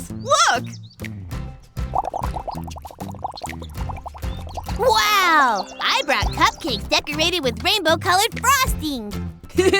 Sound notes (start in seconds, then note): 1.9 bubbling